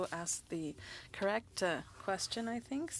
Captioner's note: speaking French